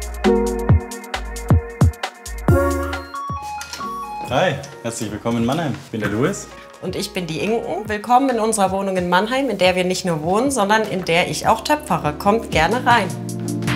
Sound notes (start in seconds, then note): 2.6 bell ringing